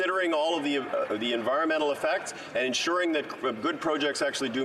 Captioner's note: some Applause